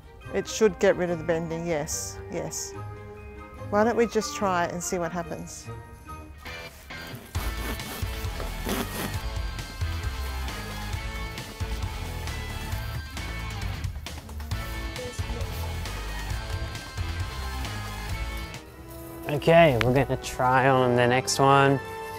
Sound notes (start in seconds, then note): 6.5 rock music; 7.1 saw scratching